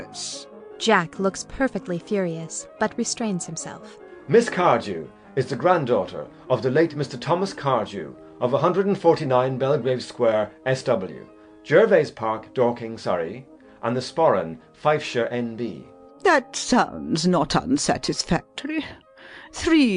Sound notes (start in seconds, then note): 4.0 in a clear, cold voice